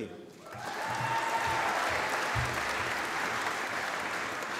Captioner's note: applause